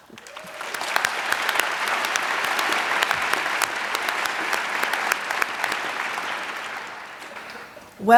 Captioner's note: applause